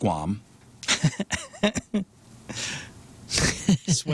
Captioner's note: laughter